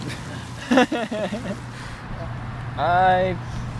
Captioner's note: laughing; water splashing